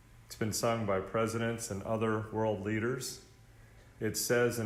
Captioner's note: none